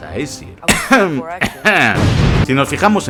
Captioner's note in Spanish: ehem ehem